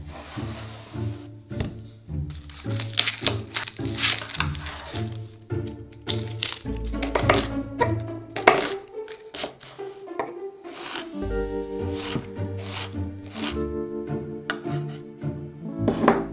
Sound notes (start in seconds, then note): 2.8 knife chopping